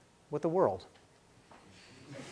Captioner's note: laughing